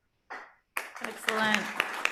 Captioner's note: applause